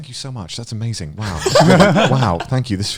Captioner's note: laughing